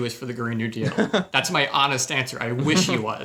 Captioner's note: chuckles